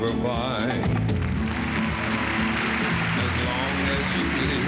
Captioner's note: applause